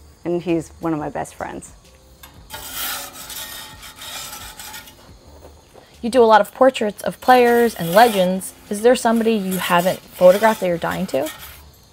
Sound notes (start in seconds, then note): 2.2 metal spatula scraping